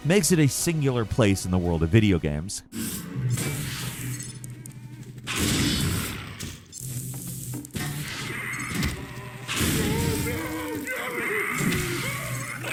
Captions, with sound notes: makes it a singular place in the world of video games. (Mawman moans) (gravity gun whooshes) (Mawman growls and shrieks)